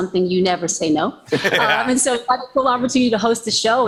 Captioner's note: laughter